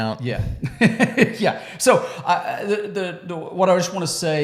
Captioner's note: laughs